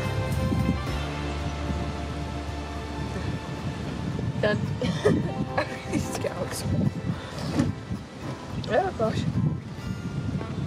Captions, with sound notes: [Background Music Ends] Done [Laughs]. I really need to get out of this hole. Oh, gosh!